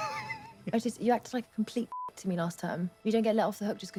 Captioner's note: Katya laughs; beep